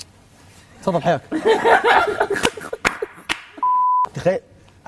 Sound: all laugh

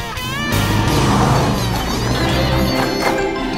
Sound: squeaking

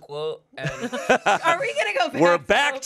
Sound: everyone laughs

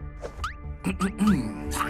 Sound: Maripos clears throat

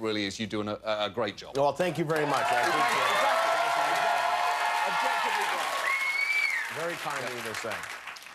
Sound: cheers and applause

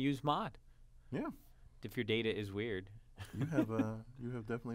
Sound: laugh

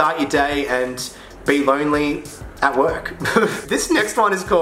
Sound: laughs

